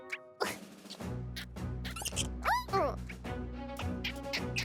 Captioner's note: animal noises